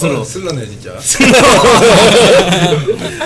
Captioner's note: laugh